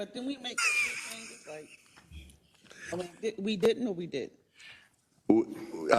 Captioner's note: laugh